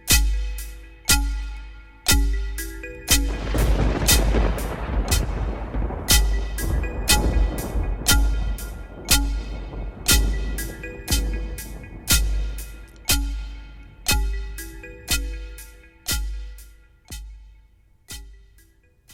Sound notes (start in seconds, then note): 0.0 bass Drum; 0.0 pan Flute; 3.3 thunder Clap and Rolling Thunder